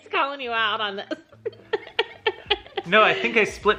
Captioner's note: laughing